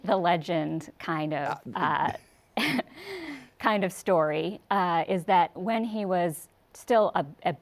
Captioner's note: chuckles